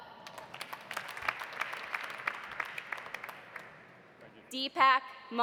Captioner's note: audience applauding